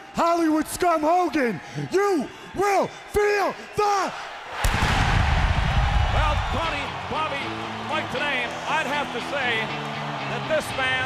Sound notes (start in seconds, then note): 2.5 crowd cheering